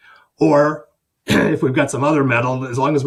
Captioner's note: clears throat